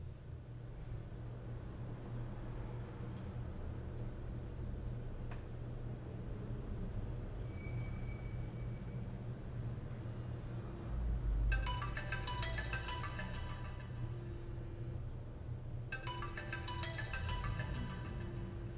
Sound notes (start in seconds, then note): 11.5 alarm ringing